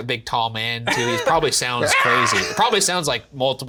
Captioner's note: Shane shrieks